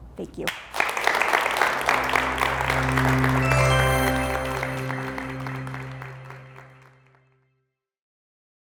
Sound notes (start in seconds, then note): 0.4 applause